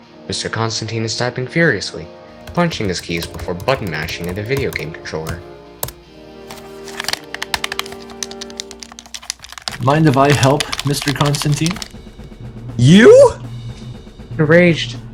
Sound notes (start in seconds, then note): 6.8 button mashing like there's no tomorrow